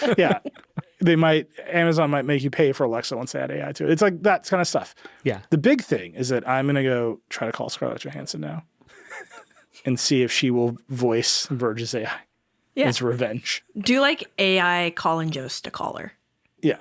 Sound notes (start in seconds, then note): 8.9 chuckling